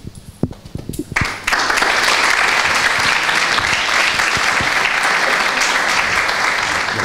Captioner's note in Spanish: aplausos